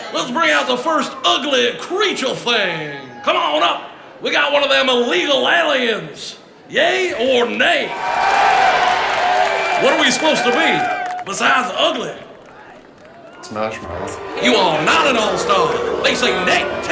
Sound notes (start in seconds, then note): 7.9 crowd cheers